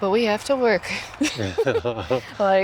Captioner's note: laughing